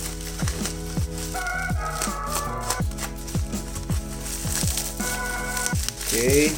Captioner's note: butchering bubble wraps noises